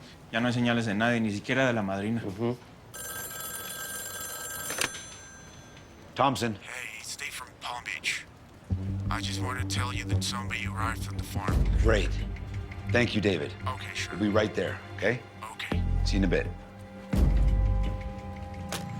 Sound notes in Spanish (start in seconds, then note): 2.9 Suena el teléfono